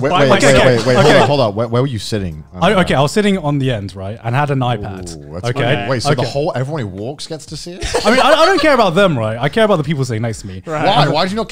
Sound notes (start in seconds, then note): 7.8 laughing